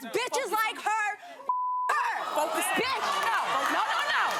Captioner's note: beep